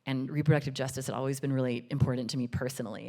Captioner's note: none